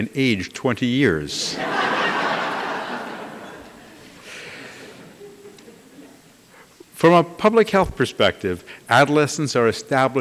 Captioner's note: laughter